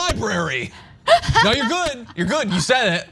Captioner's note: laugh